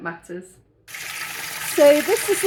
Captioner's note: running water